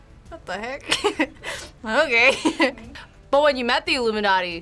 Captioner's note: laughs